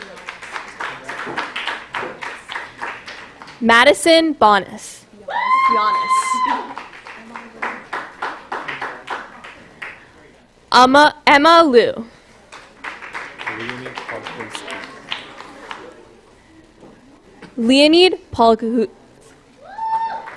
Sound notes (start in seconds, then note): 0.0 applause; 5.3 cheering; 12.4 applause